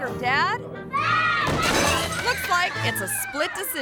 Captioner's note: table cracks